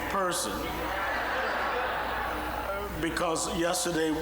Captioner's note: audience laughing